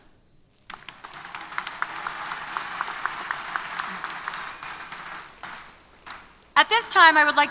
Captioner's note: applause